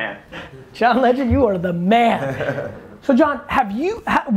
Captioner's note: laughs